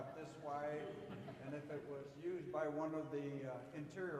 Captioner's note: audience laughing